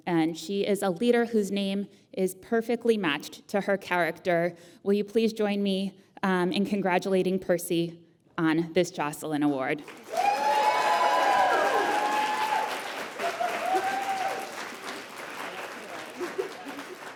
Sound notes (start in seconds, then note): 9.8 applause